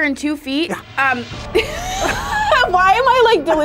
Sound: laughs

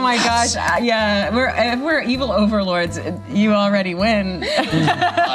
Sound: laughs

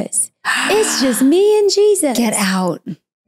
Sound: gasps

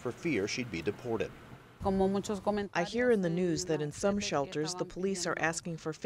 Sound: through translator

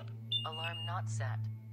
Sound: alarm beeps

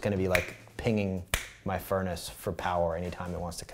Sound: snaps

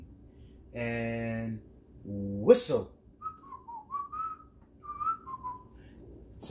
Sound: cheery whistling

